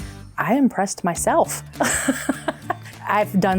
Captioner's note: laughs